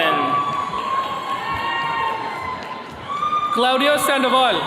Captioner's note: attendees cheering